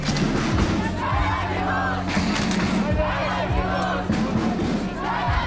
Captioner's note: all chanting in foreign language